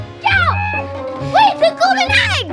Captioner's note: screams